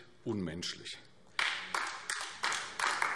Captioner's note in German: Beifall AfD